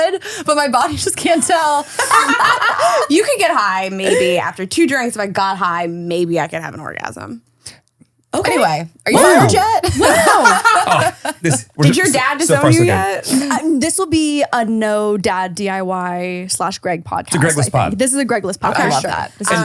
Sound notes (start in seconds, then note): 3.9 laughing; 9.8 laughing